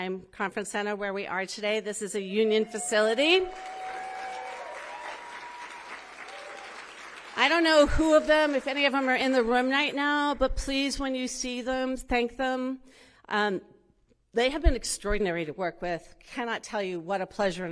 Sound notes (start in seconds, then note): 7.8 cheering; 9.7 applause